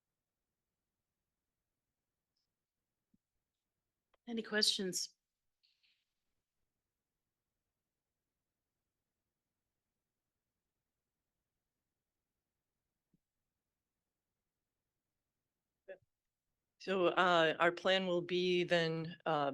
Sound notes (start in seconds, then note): 6.8 audio cuts out